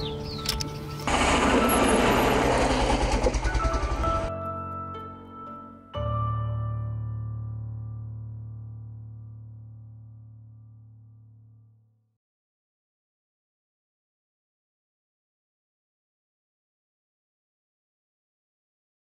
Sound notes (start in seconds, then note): 1.1 wheels spinning in dirt